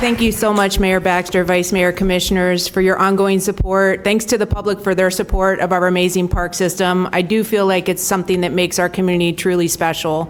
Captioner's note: applause